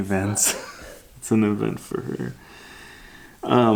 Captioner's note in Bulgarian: смее се